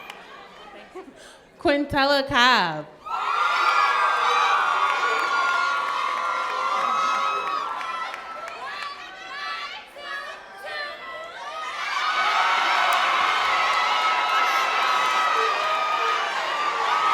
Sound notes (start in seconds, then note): 4.6 cheering